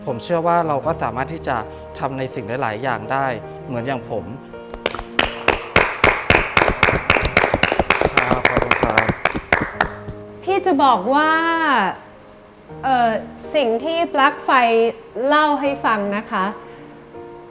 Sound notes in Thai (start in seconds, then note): 4.7 เสียงปรบมือ